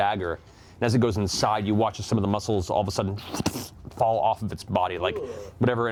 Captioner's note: squelch